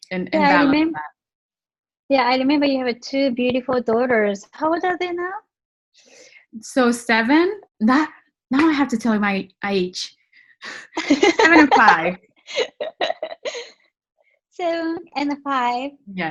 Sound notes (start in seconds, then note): 10.9 laughs